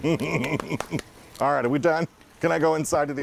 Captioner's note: laugh